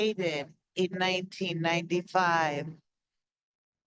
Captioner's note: speaks Spanish